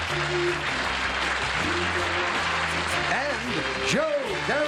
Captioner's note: applause